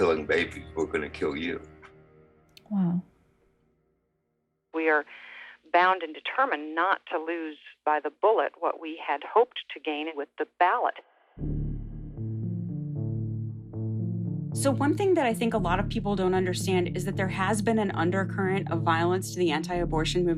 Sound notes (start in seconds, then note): 5.4 soundbite of archived recording